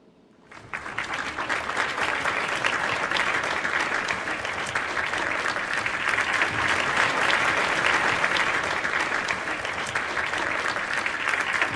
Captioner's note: applause